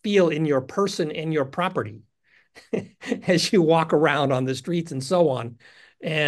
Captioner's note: laugh